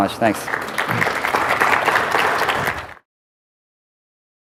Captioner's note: applause